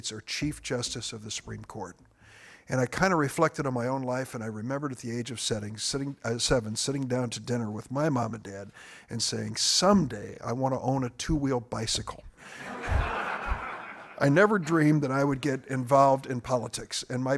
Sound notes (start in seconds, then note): 12.5 audience laughing